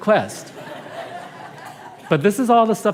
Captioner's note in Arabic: ضحك